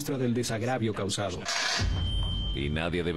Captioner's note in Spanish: zoom medio dramático